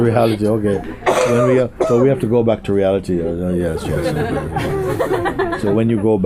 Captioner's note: laughter; laughter